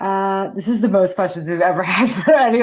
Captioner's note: laughs